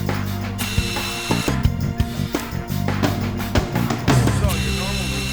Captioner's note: camera whirring